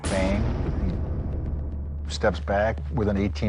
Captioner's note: gunshot